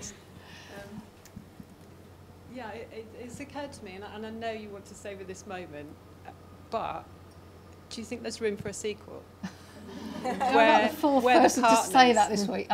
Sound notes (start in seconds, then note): 9.4 laughing